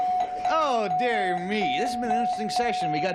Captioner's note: ringing